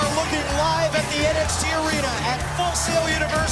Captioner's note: crowd cheering